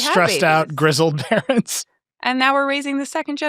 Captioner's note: chuckling